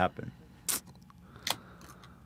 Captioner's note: cracks open can